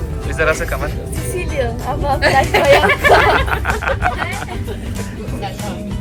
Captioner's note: speaking German; laugh; speaking German